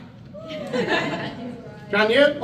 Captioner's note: crowd laughs